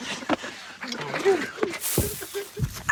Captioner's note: all laugh; thumps